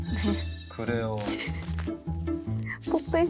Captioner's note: haha